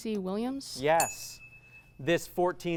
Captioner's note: ding